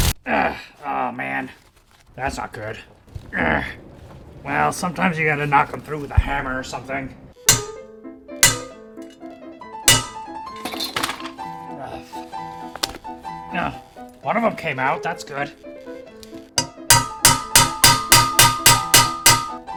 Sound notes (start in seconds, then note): 7.2 classical music; 8.4 hammering; 10.0 falling object; 16.5 hammering